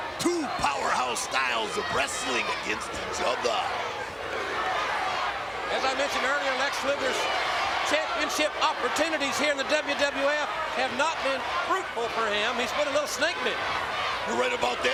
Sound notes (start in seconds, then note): 4.8 crowd chants USA